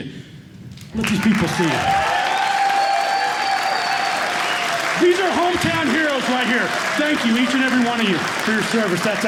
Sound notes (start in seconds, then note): 1.0 cheers and applause